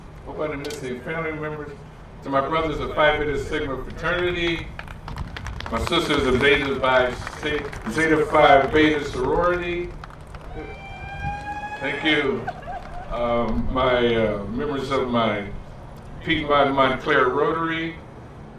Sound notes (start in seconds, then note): 4.5 applause; 10.1 cheer